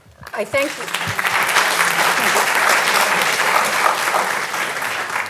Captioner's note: audience applauding